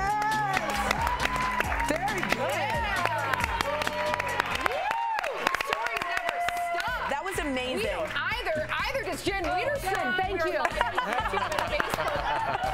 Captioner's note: cheering